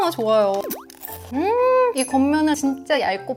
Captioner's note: Crunch